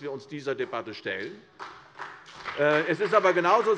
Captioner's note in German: Beifall CDU und BÜNDNIS 90/DIE GRÜNEN